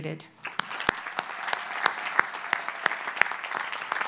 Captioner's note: audience applauds